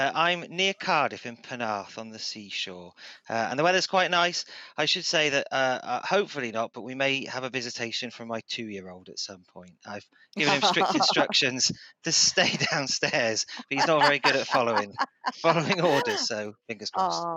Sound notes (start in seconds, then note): 10.4 laughter